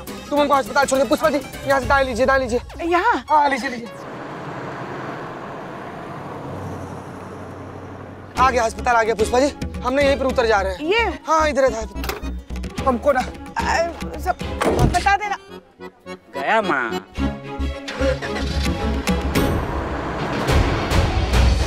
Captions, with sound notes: Take me to the hospital. Pushpa, take a right from here. - Here? - Yes. Pushpa, the hospital is here. I'll get down here. - This one? - Yes. - I have to go. - Update me later! Mom, he left. [engine starting]